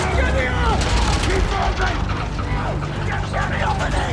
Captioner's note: ladder clanking